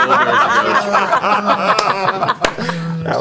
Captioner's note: laughter